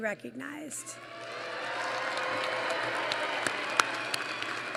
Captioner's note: applause